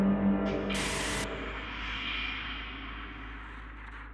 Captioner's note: high-pitched, distorted sound fades out